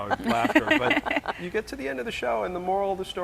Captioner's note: laughing